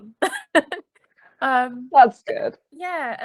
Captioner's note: laughing